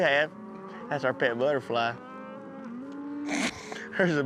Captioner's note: snickers